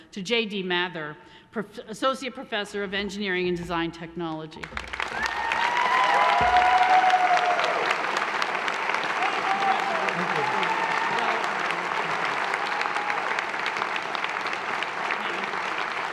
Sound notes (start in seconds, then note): 5.2 applause